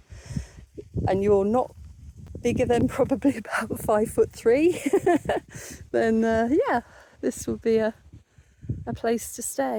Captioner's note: laughing